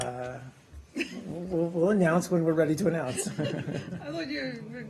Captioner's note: laughter